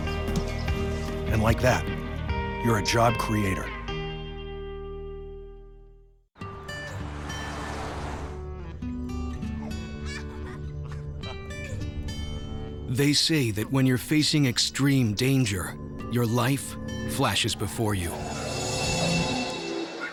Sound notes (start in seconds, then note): 10.0 laughter; 18.8 child laughs